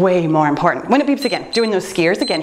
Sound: timer beeps

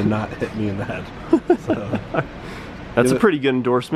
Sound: laughing

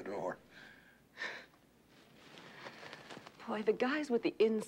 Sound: cape whirring

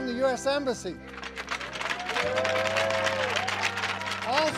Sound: sticks clacking on ice, players cheering

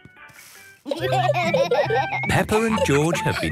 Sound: laughter

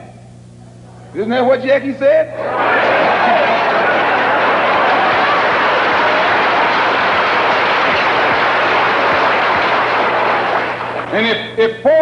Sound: applause

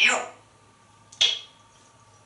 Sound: click

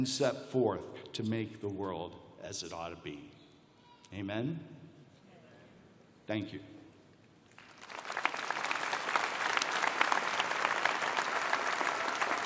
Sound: applause

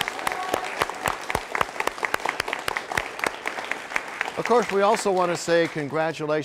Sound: cheers and applause

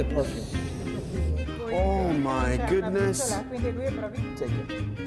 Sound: inhaling

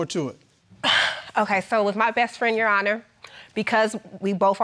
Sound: exhales

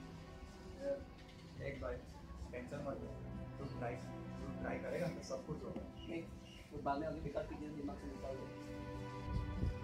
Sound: whispering

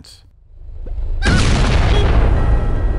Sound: boom!

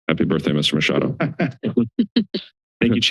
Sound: laughter

